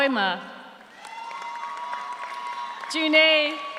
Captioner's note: audience cheers; audience applauds